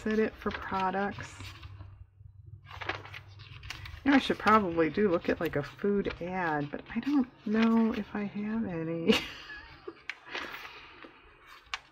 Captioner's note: laughs